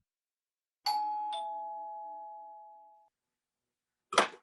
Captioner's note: door bell ring